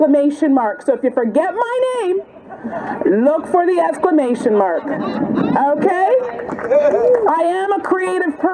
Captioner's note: applause